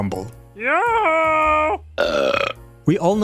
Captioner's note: burp